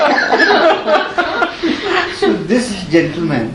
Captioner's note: laughter